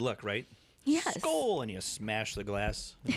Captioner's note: laughter